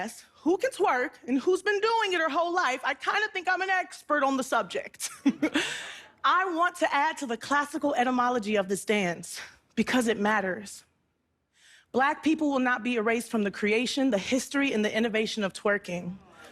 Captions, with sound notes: who can twerk and who's been doing it her whole life, I kind of think I'm an expert on the subject. (chuckles) I want to add to the classical etymology of this dance because it matters. Black people will not be erased from the creation, the history and the innovation of twerking.